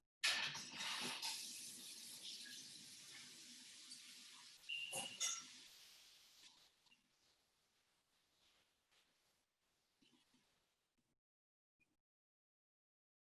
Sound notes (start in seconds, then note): 0.7 water dripping